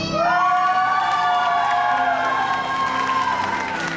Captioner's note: cheering